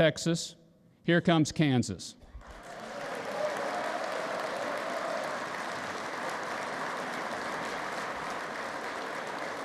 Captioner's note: applause